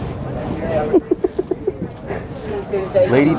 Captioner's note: laughs